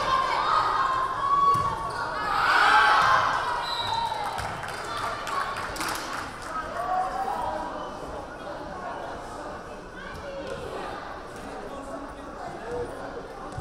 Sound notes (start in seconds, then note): 3.6 whistle blaring; 3.8 crowd cheering